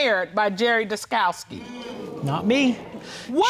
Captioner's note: audience sighing